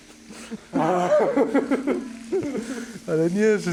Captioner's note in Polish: śmiech; parsknięcie